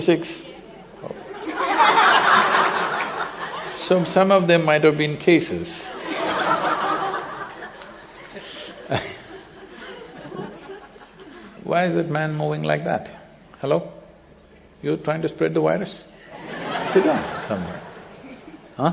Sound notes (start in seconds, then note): 1.1 laughter; 5.9 laughter; 16.3 laughter